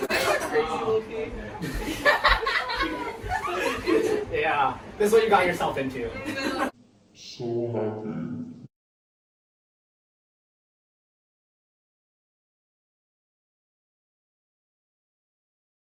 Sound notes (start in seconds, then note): 1.6 lots of laughter; 1.9 louder laughter